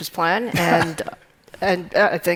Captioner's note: chuckling